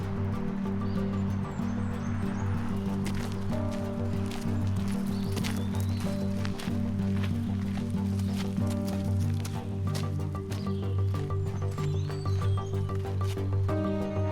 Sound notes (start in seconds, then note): 0.1 soft expectant music continues; 3.8 footsteps crunching; 10.1 soft expectant music continues